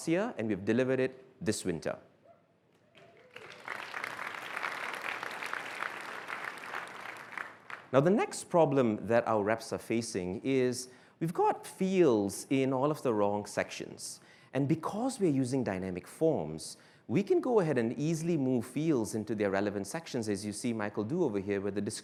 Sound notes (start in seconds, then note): 2.9 applause